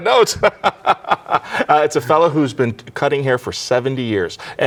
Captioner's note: laughs